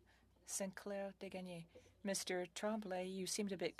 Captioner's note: speaking French